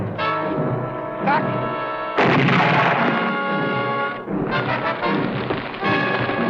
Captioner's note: explosion